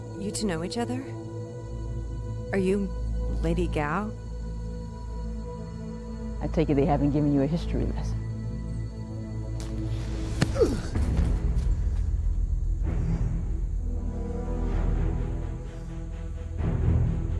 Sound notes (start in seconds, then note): 10.4 grunting; 12.8 dramatic music